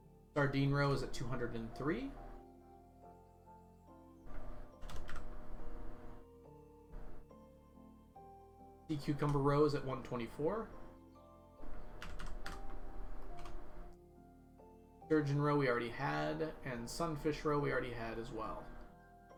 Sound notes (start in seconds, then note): none